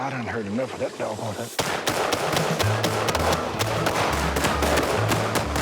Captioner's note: gunshots